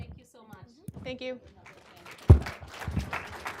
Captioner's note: applause